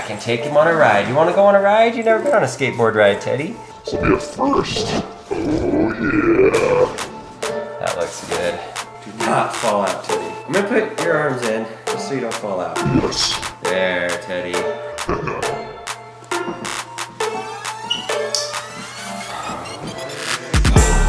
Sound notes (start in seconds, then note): 15.0 Teddy laughing; 16.2 upbeat hip hop music